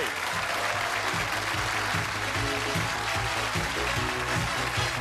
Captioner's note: cheers and applause; upbeat music